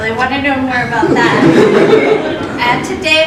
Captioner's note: laughter